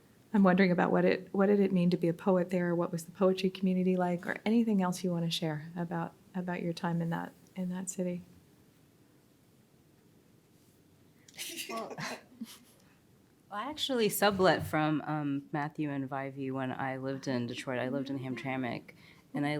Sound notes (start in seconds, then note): 11.3 laughs faintly